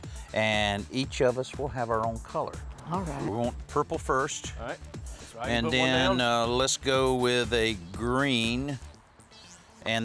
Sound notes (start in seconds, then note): none